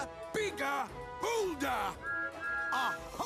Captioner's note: toot-Toot